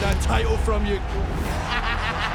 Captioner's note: laugh